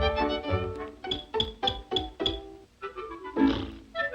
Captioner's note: clinking noise